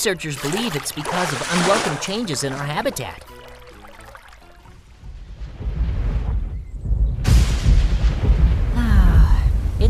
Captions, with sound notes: Researchers believe it's because of [can splashes] unwelcomed changes in our habitat. [thunder rumbles]